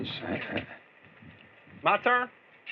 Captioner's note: chuckles